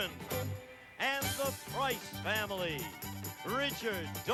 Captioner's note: none